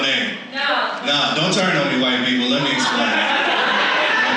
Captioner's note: audience laughs